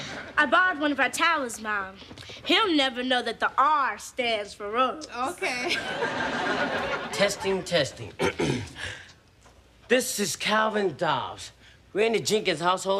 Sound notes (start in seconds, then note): 8.2 clears throat